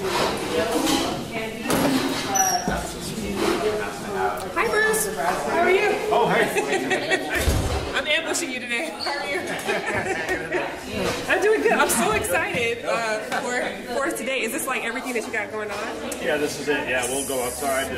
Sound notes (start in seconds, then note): 9.2 laughs